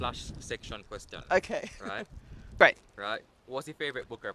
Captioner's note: laughs